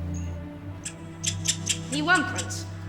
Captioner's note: mice squeaking